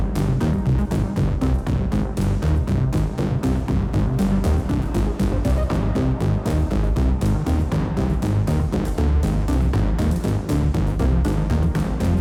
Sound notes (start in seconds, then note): none